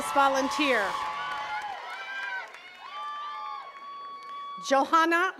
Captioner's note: attendees cheering and clapping